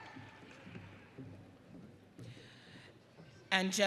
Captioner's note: audience cheering